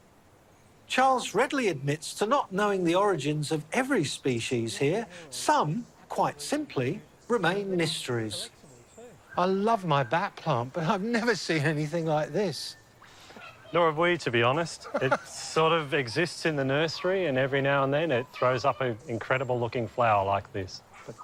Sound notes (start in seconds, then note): 14.5 laughs